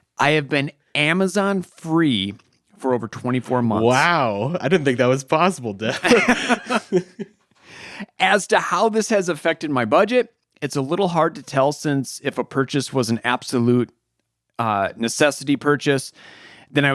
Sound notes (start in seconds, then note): 5.9 chuckles